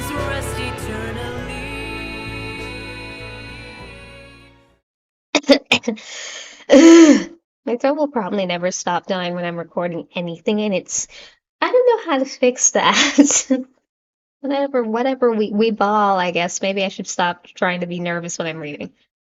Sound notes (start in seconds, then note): 5.3 coughing intensifies; 13.4 laughs